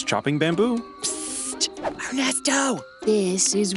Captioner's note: whispering